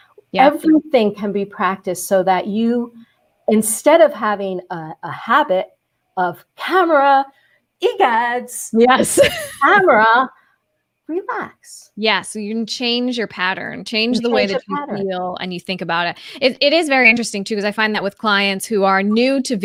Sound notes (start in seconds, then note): 9.7 laughs